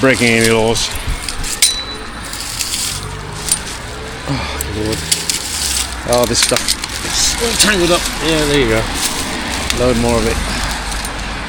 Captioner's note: road noise